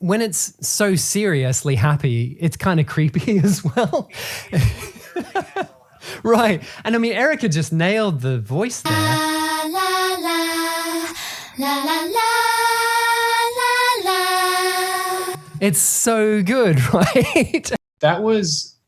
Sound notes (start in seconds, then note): 5.2 laughing; 10.4 creepy music playing; 18.6 laughing